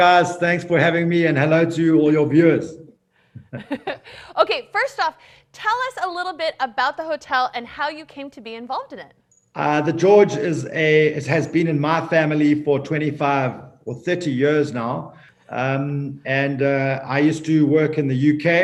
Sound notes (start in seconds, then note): 3.4 chuckling